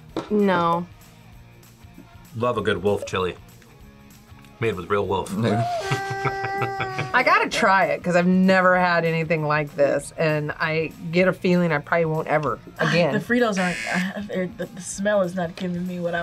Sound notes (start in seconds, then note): 5.3 laughs; 5.4 wolf howls